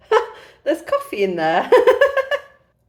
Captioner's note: laughing